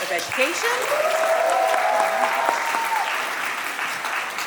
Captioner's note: audience applauding